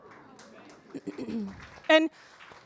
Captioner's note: audience applauding